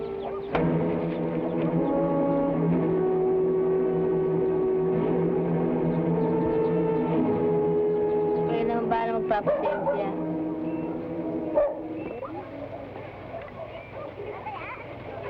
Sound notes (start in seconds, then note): 0.4 hand slaps; 8.7 woman speaking in Tagalog